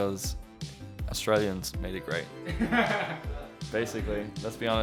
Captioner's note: laughter